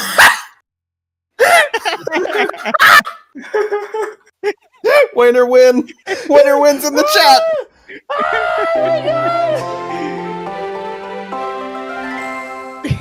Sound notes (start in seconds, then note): 1.5 yowling and laughter; 8.1 wailing